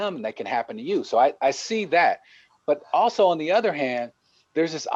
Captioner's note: voice fades